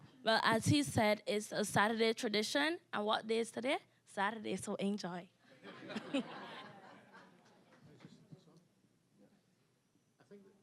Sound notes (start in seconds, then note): 5.6 audience laughing